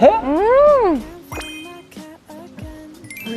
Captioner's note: laughs